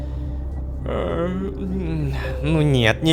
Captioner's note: yawning